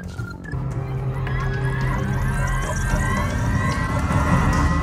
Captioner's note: warp engine powering up